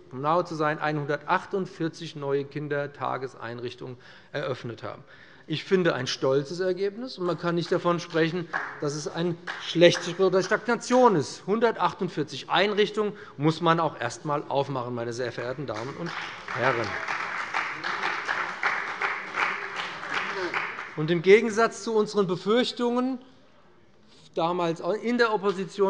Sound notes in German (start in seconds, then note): 15.6 Beifall des Abg; 19.4 Beifall bei dem BÜNDNIS 90/DIE GRÜNEN und der CDU